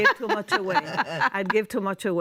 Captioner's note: laughter